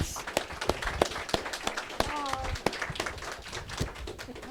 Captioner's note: audience clapping